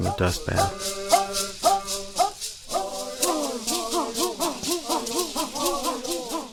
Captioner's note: bird Songs